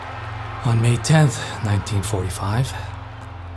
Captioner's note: people cheering